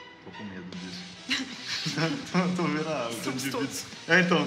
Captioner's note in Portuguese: risada